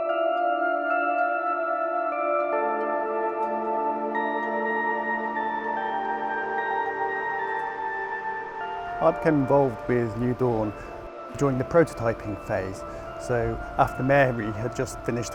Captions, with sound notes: - [Voiceover] I became involved with New Dawn during the prototyping phase, so after Mary had just finished